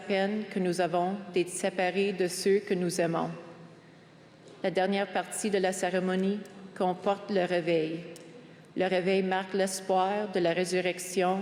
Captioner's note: speaking french